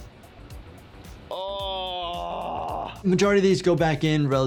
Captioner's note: groaning